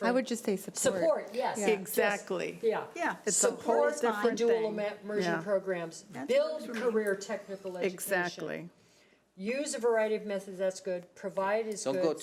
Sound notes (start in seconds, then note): 4.1 chattering